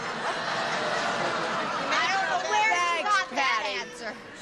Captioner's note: groaning